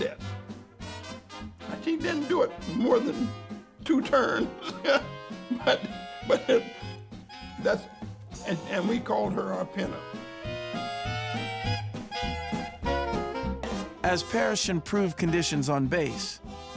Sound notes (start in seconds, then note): 4.0 chuckles; 10.2 upbeat music